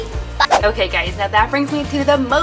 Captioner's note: air whooshing